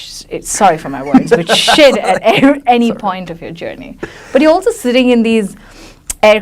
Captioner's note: laughs loudly